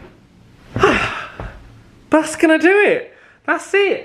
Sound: flumps into sofa

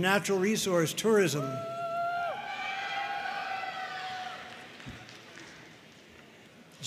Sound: audience cheering and applauding

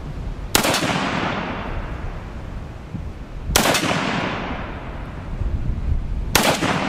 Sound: gun fires

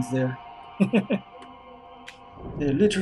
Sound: chuckles

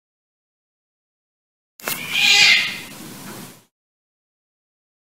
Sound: cat scream

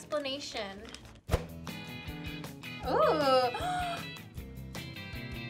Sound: upbeat music; gasps

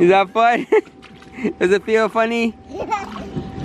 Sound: laughs

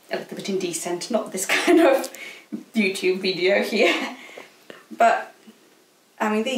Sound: chuckles

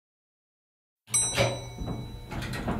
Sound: ding

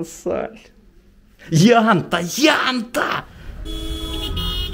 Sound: joyful shouts

